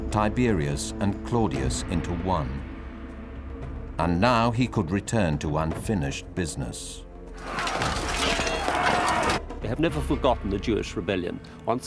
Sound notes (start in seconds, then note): 7.3 weapons clanking